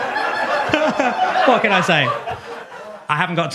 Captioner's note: laughs